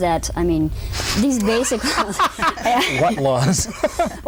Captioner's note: all laugh